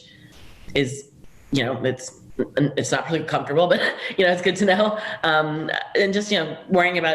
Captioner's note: chuckle